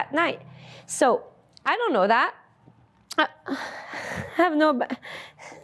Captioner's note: laughs